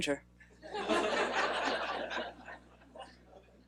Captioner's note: laughing